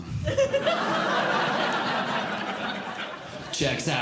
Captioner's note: audience Laughing